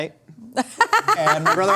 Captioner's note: laughing